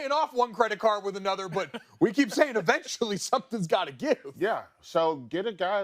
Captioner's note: laughter